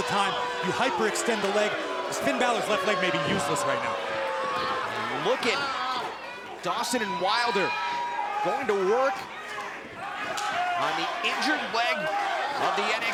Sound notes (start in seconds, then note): 5.2 crowd cheering